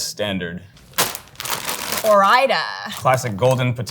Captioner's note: plastic crinkling